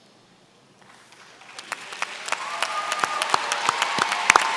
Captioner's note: applause